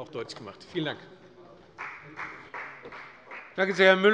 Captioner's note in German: Beifall bei der FDP